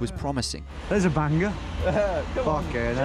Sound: laughing

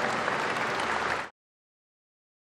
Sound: applause

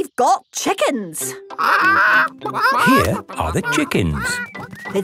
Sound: clucking

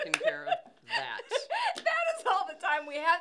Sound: laughing

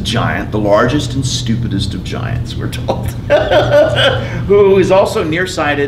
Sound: laughs

